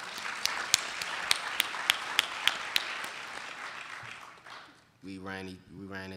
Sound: applauding

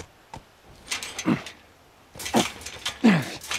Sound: Joel grunts; gate rattles

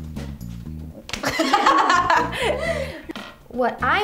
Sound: laughter

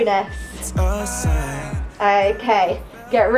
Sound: timer beeping

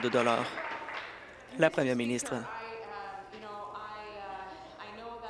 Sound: applause

